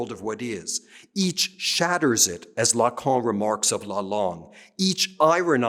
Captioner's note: speaking french